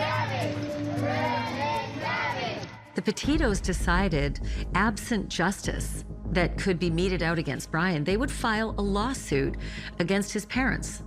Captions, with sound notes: [ Crowd chanting "Where is Gabby?" ] -The Petitos decided, absent justice